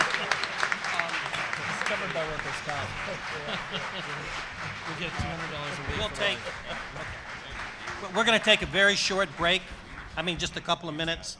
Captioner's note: applause